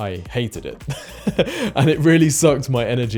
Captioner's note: laughs